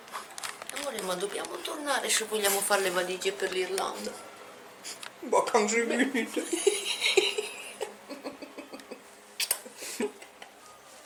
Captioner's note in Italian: Risate